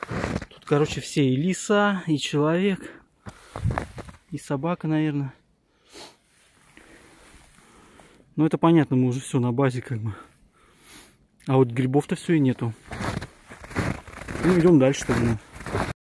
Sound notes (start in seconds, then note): 12.3 snow crunch